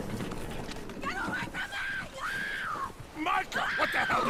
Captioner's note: screams